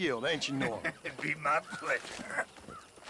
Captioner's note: laughs